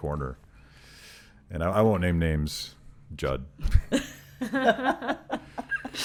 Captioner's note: laughing